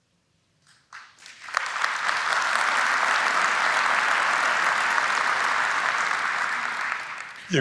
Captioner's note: applause